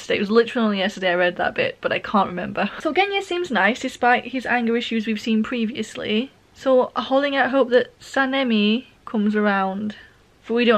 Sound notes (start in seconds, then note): none